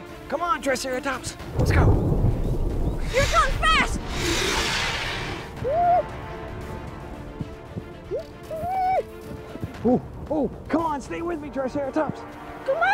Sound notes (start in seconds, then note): 1.4 thunder rumbles; 3.0 raptor screeches; 5.7 whooping